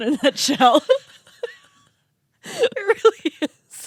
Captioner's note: girls laughing